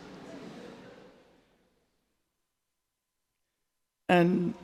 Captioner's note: audience laughing